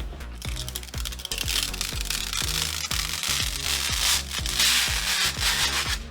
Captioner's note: mellow music; paper rustling